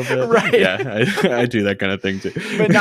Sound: laughing

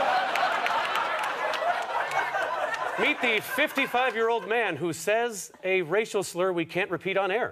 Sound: audience laughter

